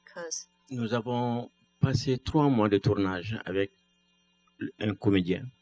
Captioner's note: speaking french